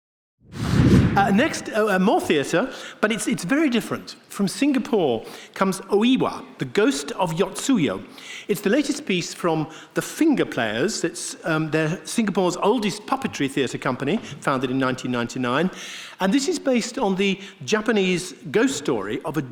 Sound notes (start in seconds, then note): 0.4 air swooshing